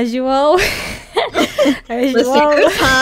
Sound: both laugh

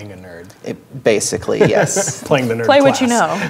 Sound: laughing

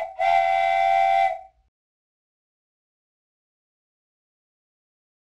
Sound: train whistle

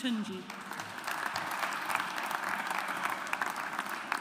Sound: audience applauds

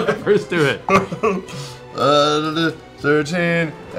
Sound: laughing; laughs

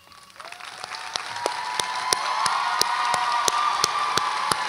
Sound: audience applauds and cheers

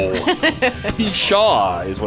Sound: laughing

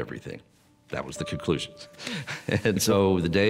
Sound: laughs

